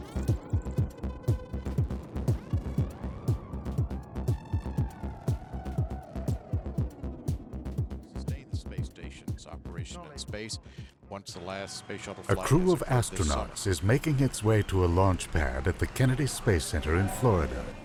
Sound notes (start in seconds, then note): 12.4 voiceover